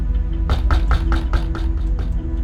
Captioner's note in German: Klopfen an Tür